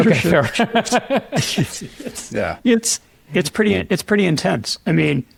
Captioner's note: panelists laugh